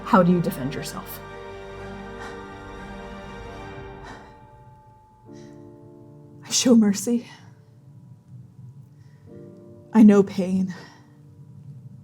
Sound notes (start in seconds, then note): 1.7 panting slowly